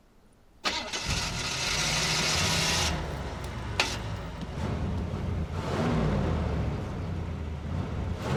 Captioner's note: engine revs